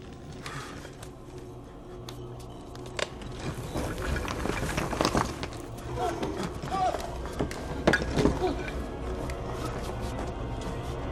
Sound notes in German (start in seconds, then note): 5.5 Keuchen